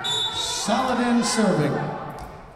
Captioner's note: whistle blowing